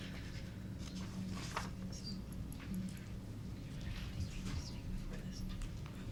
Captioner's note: members and attendees whispering